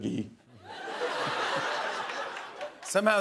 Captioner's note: laughter